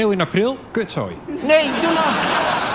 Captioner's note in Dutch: gelach